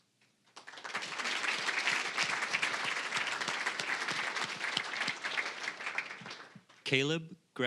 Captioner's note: applause